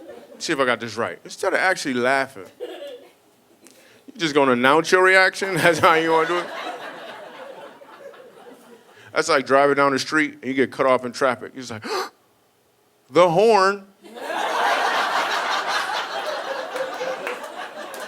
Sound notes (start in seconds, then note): 11.9 gasps; 14.1 audience laughing